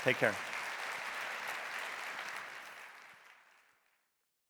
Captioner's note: audience applauding